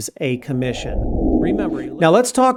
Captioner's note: air whooshing